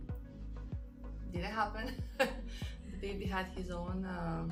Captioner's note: laughs